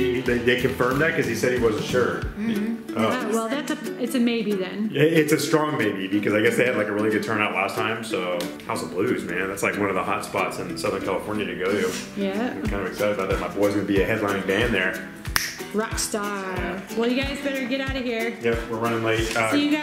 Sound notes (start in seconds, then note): 15.3 snap